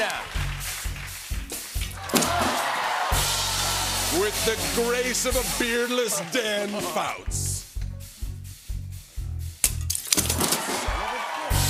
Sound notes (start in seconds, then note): 1.5 rimshot; 2.0 audience ohs; 3.9 announcer voice; 10.3 cheering and applause